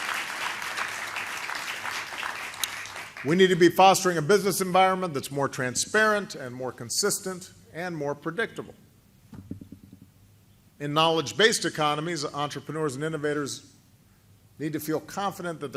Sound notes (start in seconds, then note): 2.3 applause